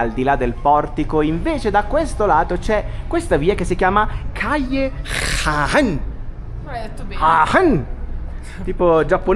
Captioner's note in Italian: sbuffare